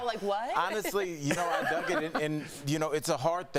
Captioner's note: laughter